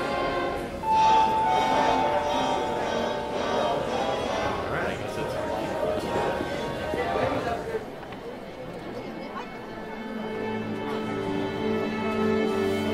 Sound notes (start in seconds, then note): 0.8 bell chiming; 8.4 orchestra tuning